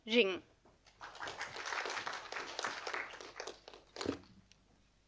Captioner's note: audience applauding